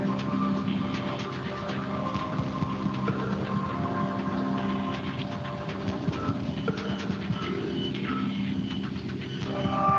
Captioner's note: beeping